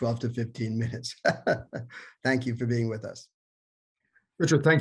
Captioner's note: laughter